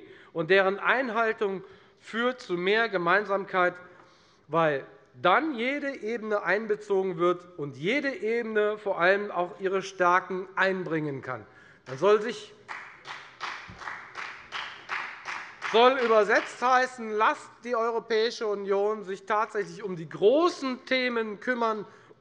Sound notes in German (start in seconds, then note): 12.6 Beifall bei der FDP